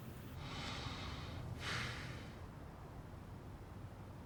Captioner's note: sighs